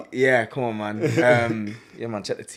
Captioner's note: laughs